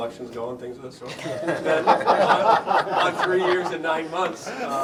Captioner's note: laughter